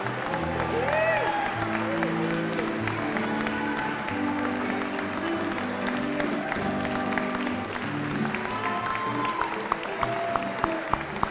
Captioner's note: applause and music continue